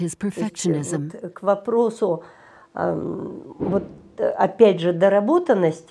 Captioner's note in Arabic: الصوت المنطوق بالروسية